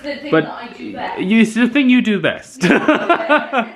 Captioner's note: laughing